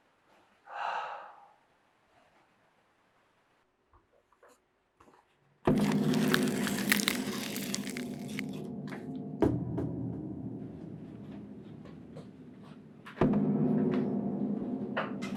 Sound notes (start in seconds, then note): 0.3 sighing; 5.7 tearing; 11.8 ominous music